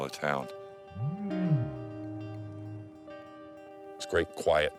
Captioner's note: bear grunting